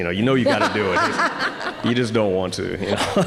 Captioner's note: audience laughing